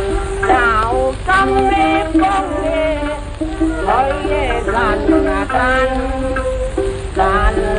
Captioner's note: autumn wind